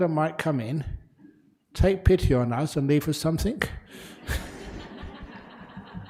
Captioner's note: laughter